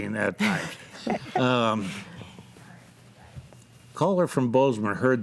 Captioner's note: group laughs